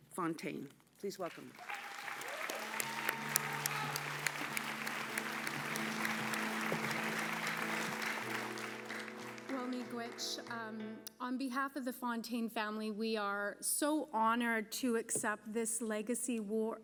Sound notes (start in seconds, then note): 6.9 applause